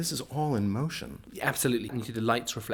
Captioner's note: voiceover